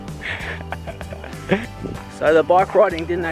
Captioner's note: laughing